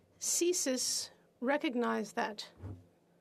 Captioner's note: speaking FRENCH